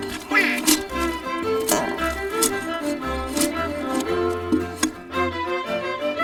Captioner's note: tool scraping